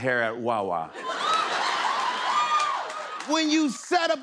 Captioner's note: laughter